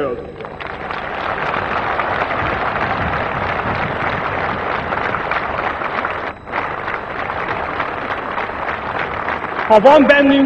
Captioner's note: applause